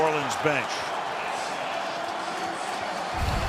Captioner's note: cheering